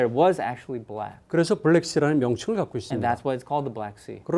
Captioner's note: speaking in Korean